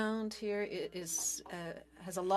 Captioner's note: speaking French